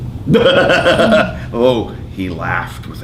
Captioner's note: laughing